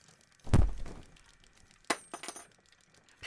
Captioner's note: scissors clatter